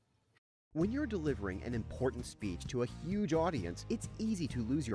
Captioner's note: voiceover